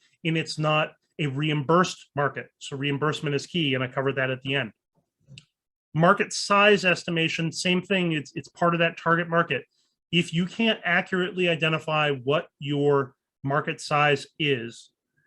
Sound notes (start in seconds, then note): none